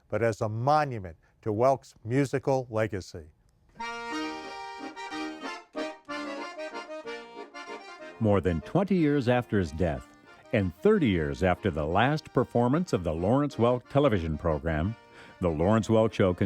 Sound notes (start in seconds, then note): 4.3 polka music; 8.5 voiceover